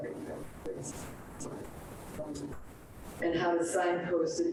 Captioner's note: speaks distorted